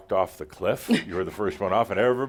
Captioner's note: she chuckles